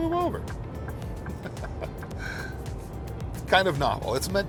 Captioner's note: laughing